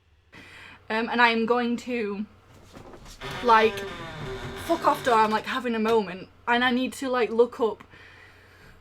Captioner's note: door creak